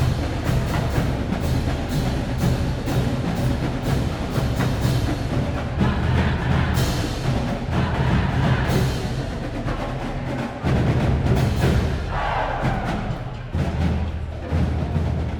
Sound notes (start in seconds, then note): 5.9 band playing; 11.8 cheering